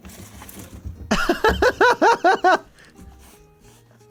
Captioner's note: laughs